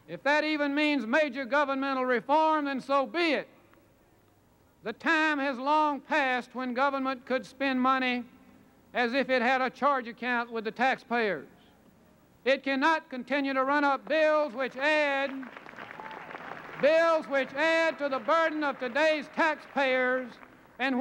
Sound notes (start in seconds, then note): 14.0 applause